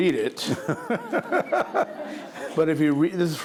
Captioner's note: laughing